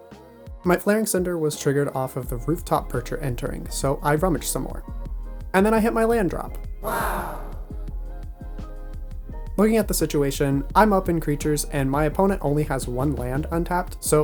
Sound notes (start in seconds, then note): 6.8 sound effect: Wow!